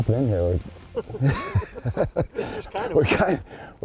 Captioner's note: laughter